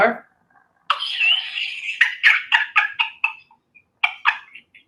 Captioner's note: laughs